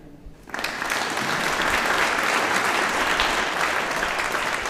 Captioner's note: audience applauding